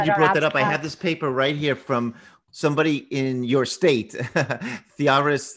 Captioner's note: laughs